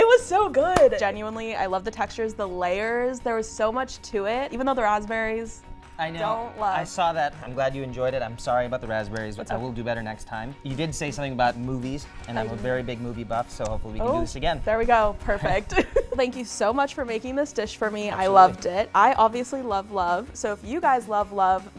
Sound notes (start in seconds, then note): 15.6 laughing